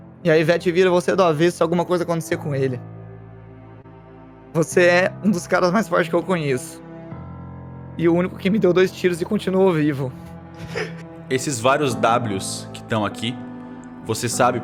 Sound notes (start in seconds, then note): 10.6 laughs